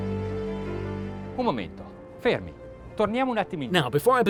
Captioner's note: gentle music; speaking in foreign language